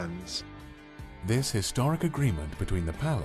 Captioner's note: voiceover